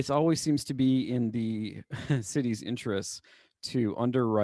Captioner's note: laughter